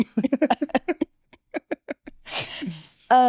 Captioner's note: both laughing